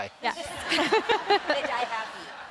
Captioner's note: audience laughs